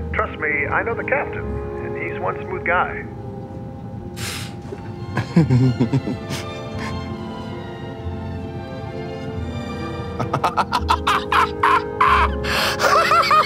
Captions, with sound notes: Trust me, I know the captain, and he's one smooth guy. (passenger exhaling) (Jordan chuckling) (Jordan laughing)